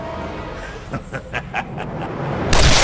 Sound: evil laugh

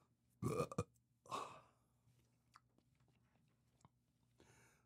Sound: burps

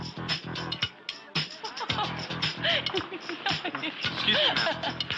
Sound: laughing

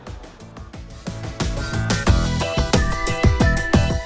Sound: cheerful whistling

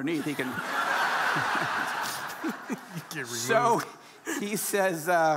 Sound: audience laughing

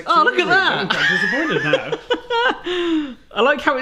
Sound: laughs

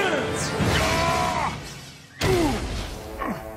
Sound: grunting

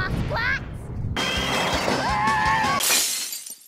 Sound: the girls screaming, cheering

